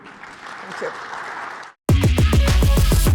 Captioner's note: applause